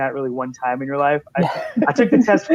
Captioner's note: laughing